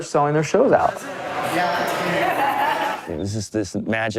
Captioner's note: fan laughs